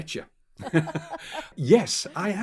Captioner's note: both laughing